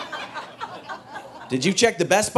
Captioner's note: audience laughing